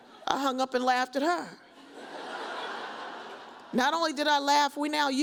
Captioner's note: audience laughs